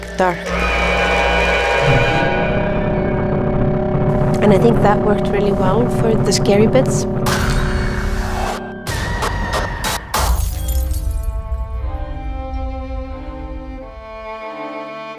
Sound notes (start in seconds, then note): 0.3 dark tense music; 10.2 chandelier shattering